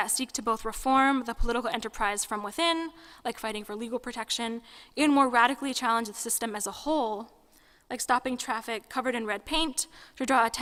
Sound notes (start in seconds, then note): none